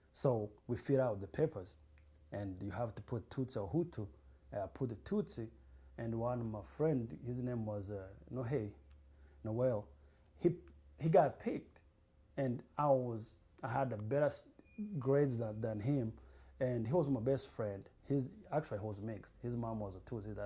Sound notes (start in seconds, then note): 8.8 non-english